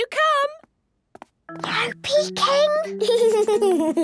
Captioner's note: whispering; Danny giggling